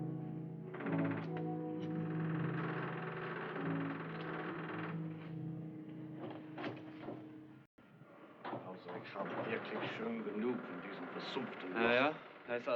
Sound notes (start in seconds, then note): 7.1 chattering